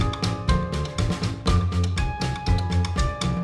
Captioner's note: none